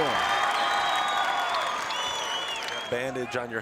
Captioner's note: crowd cheers